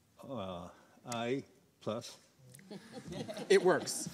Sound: audience chuckling

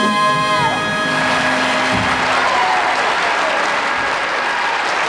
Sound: audience applauding

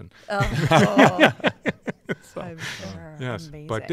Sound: laughter

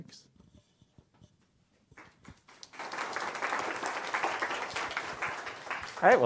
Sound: applause

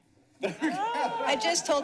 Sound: laughs

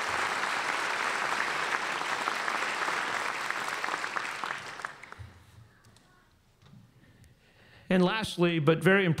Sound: applause

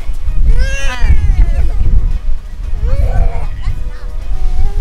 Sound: baby loudly crying

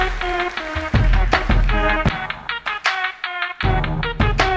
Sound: applause

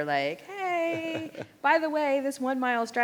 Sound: laughs

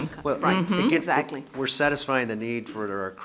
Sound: murmurs

